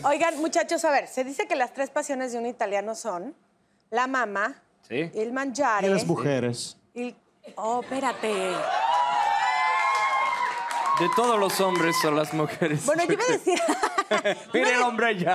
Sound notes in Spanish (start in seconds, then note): 8.4 Bullicio